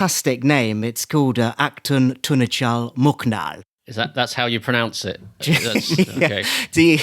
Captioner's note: laughing